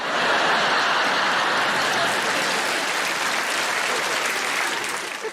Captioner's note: audience laughing and applauding